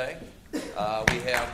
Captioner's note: claps